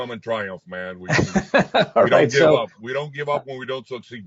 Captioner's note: laughs